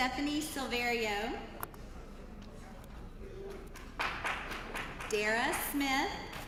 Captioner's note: applause